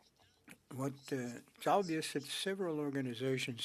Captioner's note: speaking French